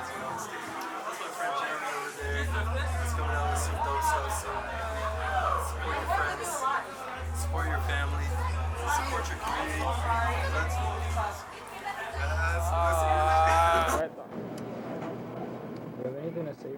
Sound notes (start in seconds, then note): 13.4 laughs